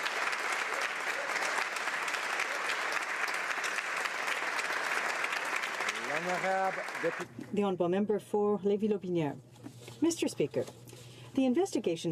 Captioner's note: applause